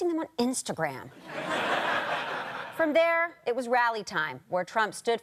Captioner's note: audience laughter